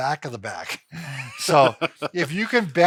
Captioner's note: both laughs